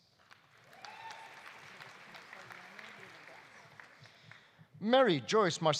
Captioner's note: audience applauding; audience cheering